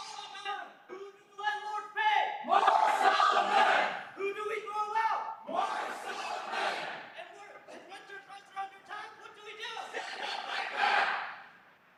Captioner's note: crowd chanting